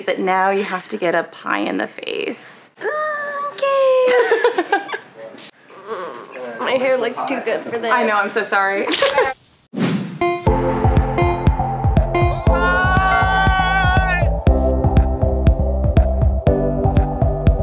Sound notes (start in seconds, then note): 4.0 laughs; 10.2 countdown timer beeping; 14.8 upbeat music